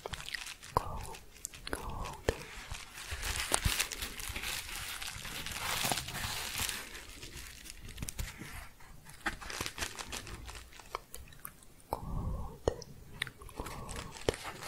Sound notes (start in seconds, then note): 2.7 shuffling and crinkling